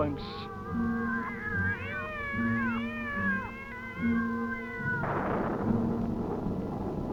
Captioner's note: cat screeches; thunder booms